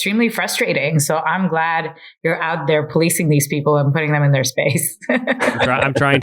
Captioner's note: laughs